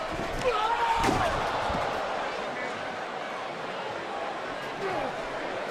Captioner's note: crowd murmuring continues